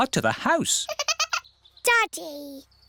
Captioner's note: giggling